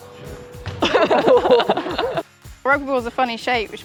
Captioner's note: nervous laughter